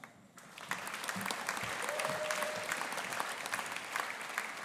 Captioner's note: audience applauding